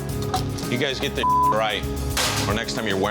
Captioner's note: beep